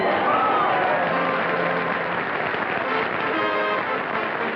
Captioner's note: applause